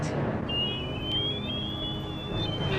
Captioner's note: whistle; alarm